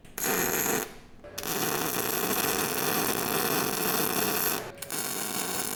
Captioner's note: drilling